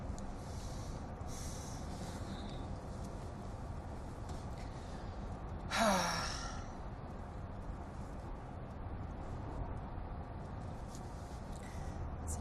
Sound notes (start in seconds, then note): 5.6 sighing heaviIy